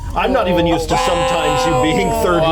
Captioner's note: laughter